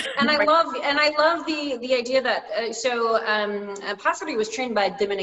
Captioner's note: laughs